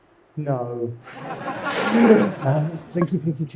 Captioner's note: audience laughing